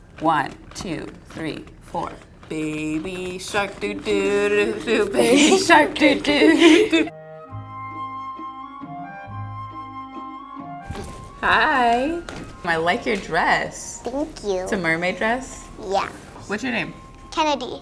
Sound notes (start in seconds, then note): 3.4 laughs; 7.3 bright music